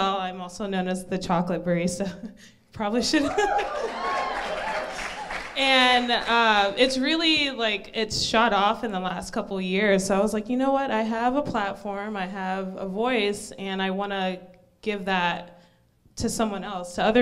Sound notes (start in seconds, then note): 3.0 crowd cheers; 3.1 laughs